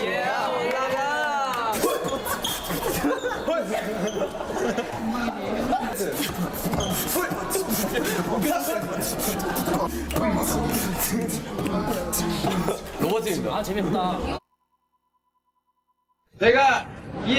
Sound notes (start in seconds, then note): 1.2 cheer; 2.7 beatboxes; 2.7 laugh